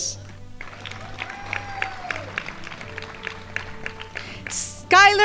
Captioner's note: crowd applauding